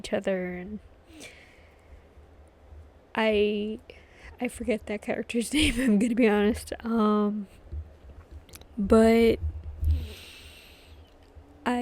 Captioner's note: laughs